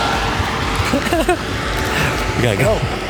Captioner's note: giggles